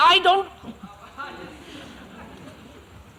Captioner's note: laughter